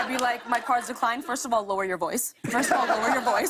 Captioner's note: laughter; laughter